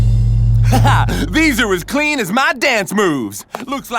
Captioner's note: laughs